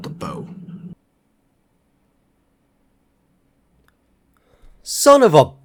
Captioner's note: silence